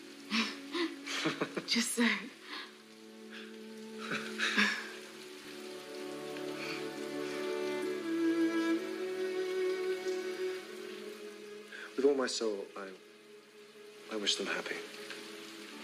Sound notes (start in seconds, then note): 1.0 shared laugh; 4.0 shared sigh